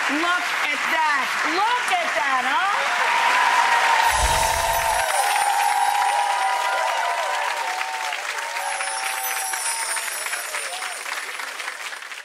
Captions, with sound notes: Look at that, look at that, huh? (applause) (tinkling) (audience cheering)